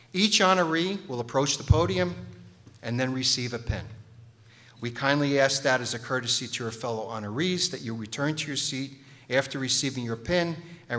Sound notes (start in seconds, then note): none